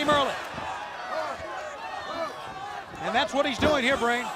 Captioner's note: crowd chatter